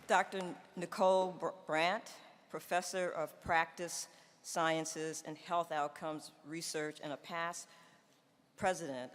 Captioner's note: applause